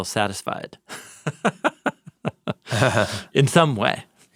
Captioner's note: both chuckles